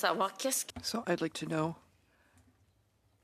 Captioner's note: speaking in French